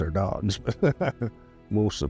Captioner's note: chuckling